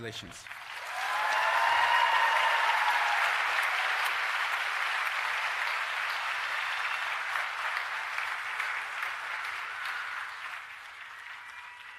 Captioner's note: applause